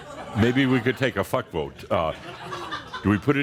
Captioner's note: more laughter